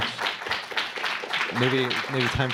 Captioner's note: applause